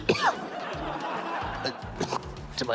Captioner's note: coughs